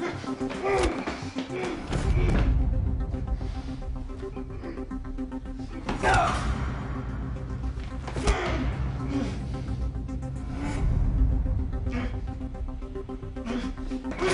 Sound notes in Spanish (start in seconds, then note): 6.2 Golpes